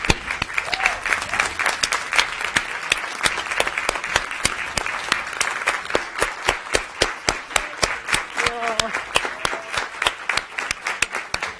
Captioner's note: applause